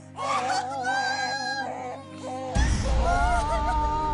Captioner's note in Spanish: Quejidos